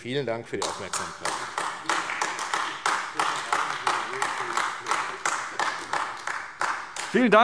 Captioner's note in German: Beifall AfD